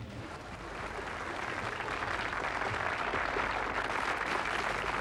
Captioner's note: audience applauding